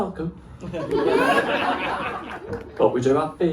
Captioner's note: laughter